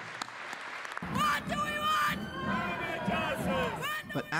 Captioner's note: applause